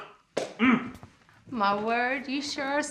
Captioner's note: hand smacks